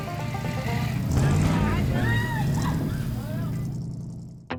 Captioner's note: screaming